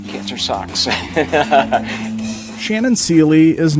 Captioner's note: laughs